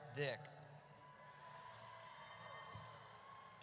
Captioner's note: audience cheers